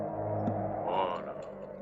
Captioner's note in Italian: urlo